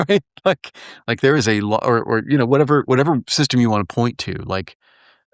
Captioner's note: laugh